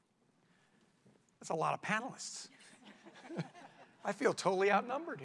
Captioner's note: laughter